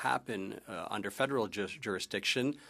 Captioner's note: speaking French